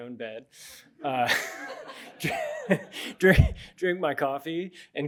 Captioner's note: chuckles